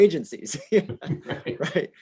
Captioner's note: laughing